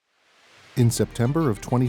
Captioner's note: sound: water rushing